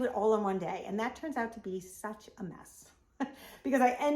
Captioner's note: laughs